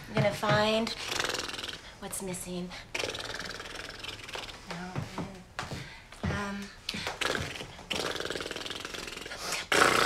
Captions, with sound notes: Gonna find.. (blowing raspberries) what's missing. (blowing raspberries) Um.. (blowing raspberries)